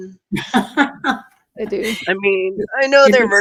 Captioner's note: laughs